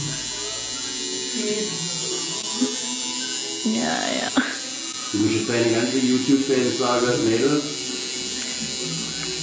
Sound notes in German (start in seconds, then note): 2.2 tätowier geräusch